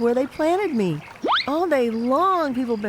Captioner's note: slide whistle blows